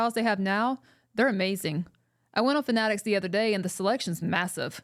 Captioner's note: none